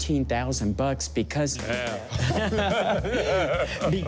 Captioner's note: laughs